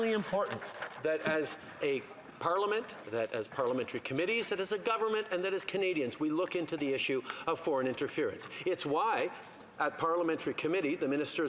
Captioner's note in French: voix de l'interprète